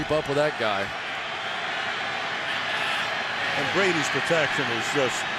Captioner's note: crowd cheering